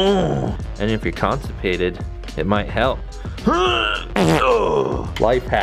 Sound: grunts; grunts, fart noise

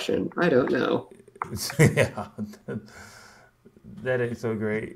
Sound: laughs

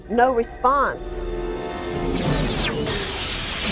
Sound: explosion

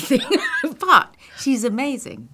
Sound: laughing

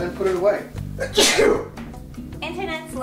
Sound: sneeze

